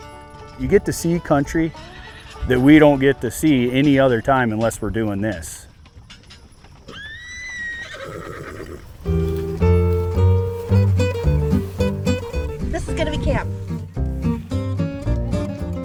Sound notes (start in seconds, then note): 6.8 horse neighing; 10.1 upbeat music